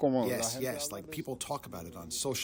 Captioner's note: through translator